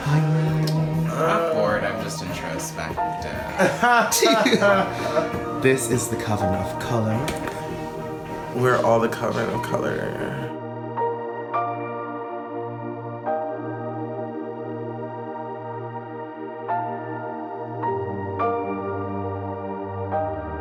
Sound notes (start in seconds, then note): 3.2 all laughing; 11.1 soft piano music